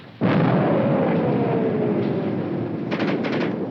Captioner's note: bomb exploding